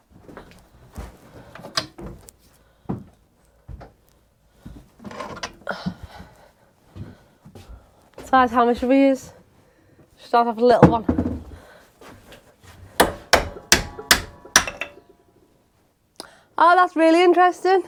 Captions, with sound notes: which size hammer shall we use? try the little one? (hammering) Oh, that's really interesting.